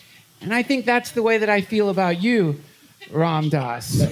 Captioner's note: laughter